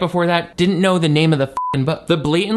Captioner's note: beep